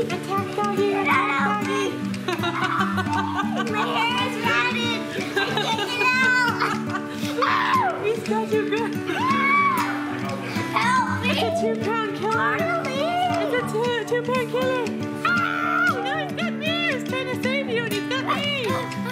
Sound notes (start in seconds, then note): 2.2 laughter; 7.4 screaming; 9.4 screaming